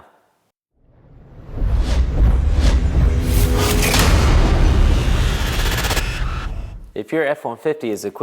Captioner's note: sound effect